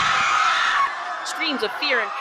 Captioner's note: screams, shattered dishes, and furniture knocked over